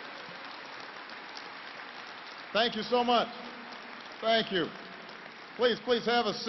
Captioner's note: applause